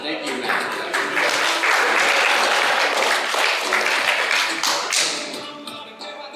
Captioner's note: applause